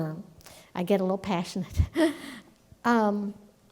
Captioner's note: laughs